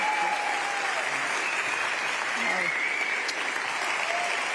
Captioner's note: applause